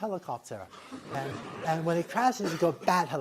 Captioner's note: laughter